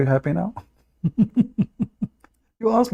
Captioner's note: Ketawa